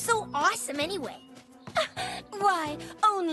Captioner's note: giggles